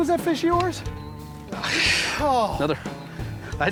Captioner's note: sighs